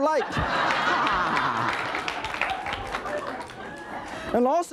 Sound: audience laughing

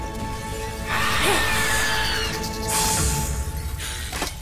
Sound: screeching, hissing

